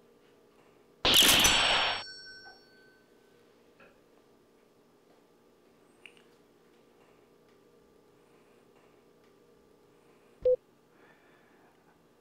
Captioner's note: gunshot noise, cash register noise